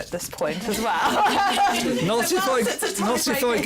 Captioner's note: laughs